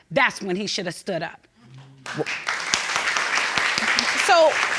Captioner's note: audience clapping